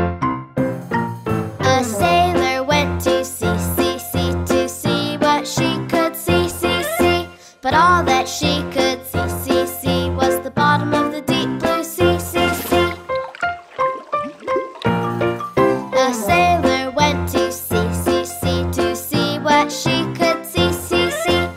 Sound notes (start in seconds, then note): 12.0 water burbles; 12.8 bright music